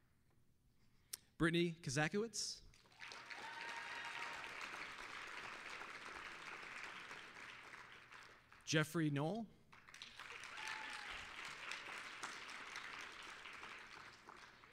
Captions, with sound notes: BRITTANY KOZAKIEWICZ... (applause, cheering) JEFFREY NOEL... (applause)